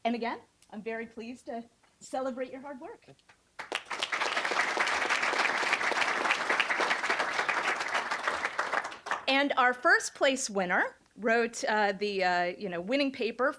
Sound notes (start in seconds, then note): 3.5 applause